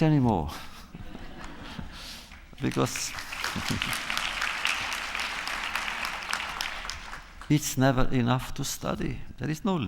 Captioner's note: applause